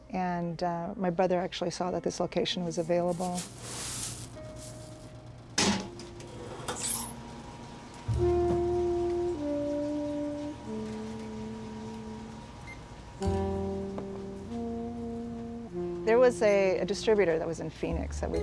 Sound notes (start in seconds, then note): 3.9 popcorn machine whirring; 3.9 slow jazz music